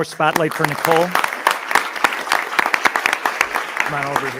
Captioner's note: everyone applauding